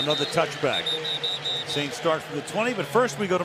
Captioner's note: whistling